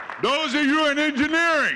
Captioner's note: audience cheering